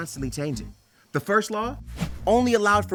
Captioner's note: transition whooshes